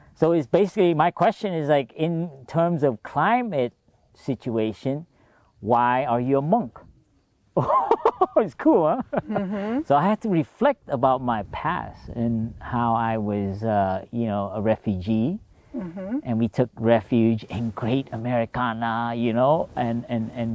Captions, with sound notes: er, so it's basically my question is like in terms of climate situation why are you a monk. (laughs) It's cool, huh? So I had to reflect about my past and how I was, er, you know, a refugee And we took refuge in great Americana, you know and and and you know and so on and